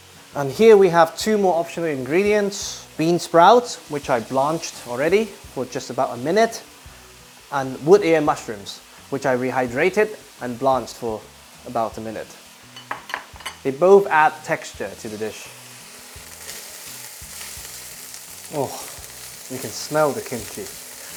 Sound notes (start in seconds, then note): 16.3 sizzling sound